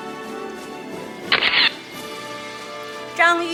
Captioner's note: camera shatters